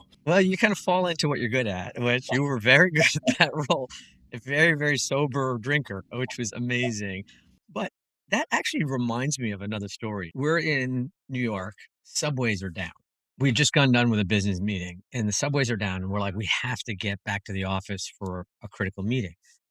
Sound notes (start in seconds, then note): 2.0 laugh